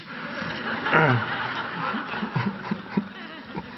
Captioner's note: audience laugh